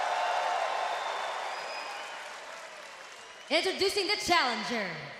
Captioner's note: crowd cheering